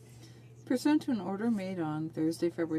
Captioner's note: speaking French